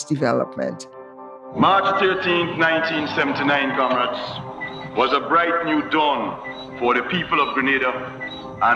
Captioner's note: soundbite of archived recording